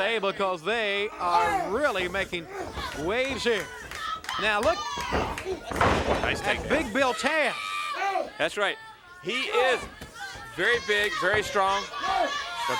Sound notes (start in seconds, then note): 4.6 body thudding